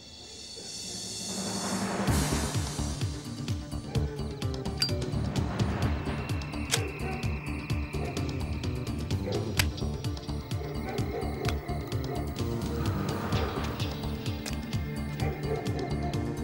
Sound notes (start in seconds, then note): 2.7 upbeat electronic music; 5.1 lighter flicks; 7.4 dogs barking